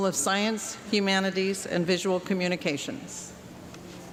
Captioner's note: none